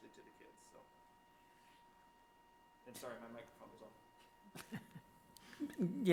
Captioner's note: laughs